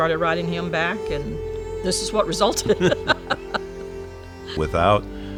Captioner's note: pair laughs